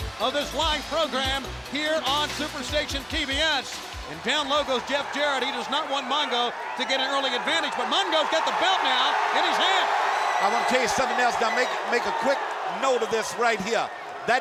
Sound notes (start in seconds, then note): 7.4 crowd cheering